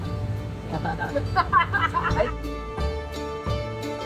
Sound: laugh

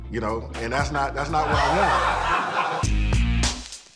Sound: laughter

